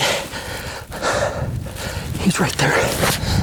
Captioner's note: breathing deeply; wind blowing